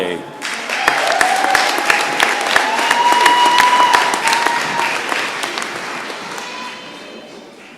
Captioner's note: applause and cheering